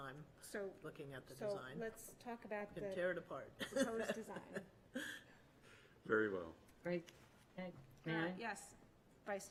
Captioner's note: clears throat